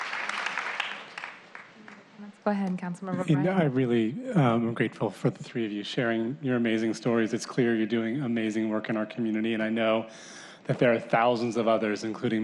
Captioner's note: applause